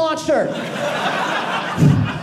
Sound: audience laughing

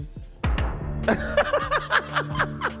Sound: Netflix sound; laughs

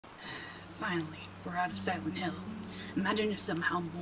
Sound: sighs

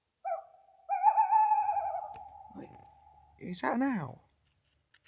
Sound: bird hooting

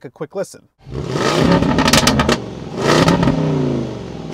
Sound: exhaust blaring

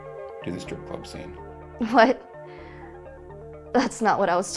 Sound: laughs

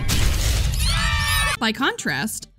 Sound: screaming

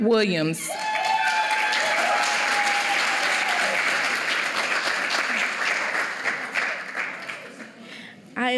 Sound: applause

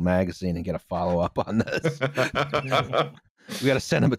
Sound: laughs

